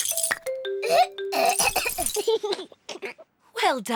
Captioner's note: splutters; giggles